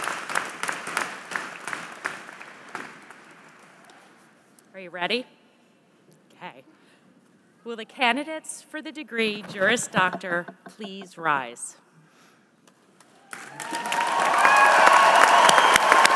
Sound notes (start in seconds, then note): 4.5 applause; 15.9 applause